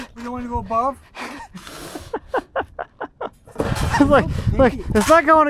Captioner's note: man chuckling